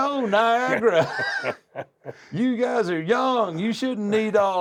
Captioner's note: laugh